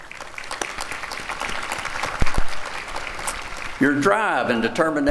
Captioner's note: applause